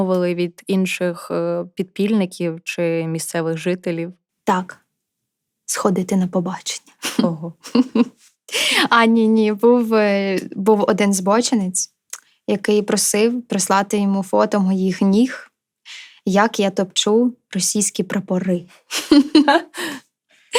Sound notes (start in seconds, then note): 7.6 laughter